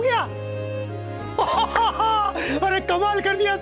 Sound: guffawing

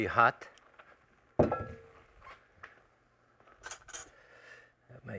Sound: pan thuds

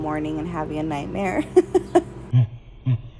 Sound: laughs

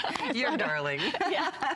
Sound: laughter

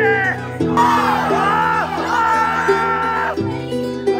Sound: all shout

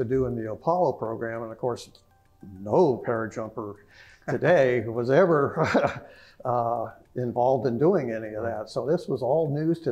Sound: laugh

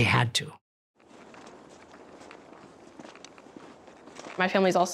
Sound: muffled footsteps

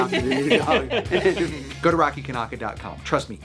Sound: everyone laughs

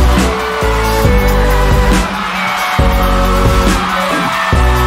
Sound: audience cheering

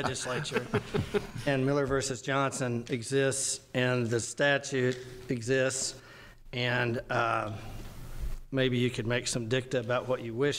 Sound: laughter

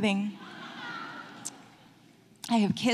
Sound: light audience laughting

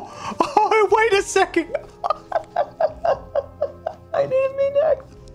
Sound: laughs in pain

